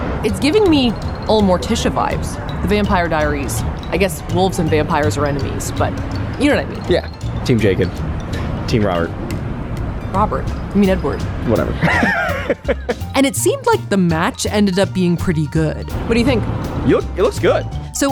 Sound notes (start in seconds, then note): 11.7 laughs